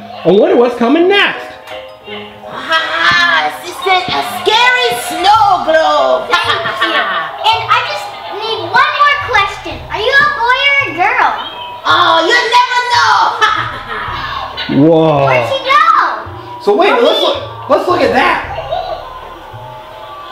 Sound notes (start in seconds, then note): 13.2 maniacal laughing